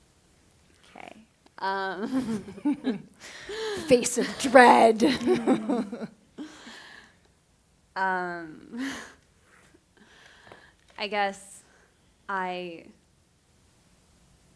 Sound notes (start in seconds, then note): 2.0 laughter; 6.7 laughs; 10.0 laughs